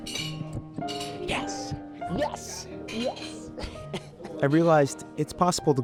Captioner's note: laughs